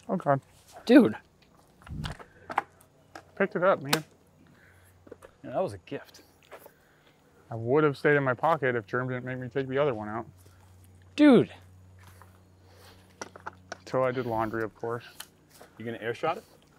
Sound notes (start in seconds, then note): none